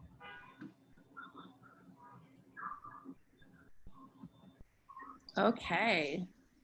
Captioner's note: car horn honking in the distance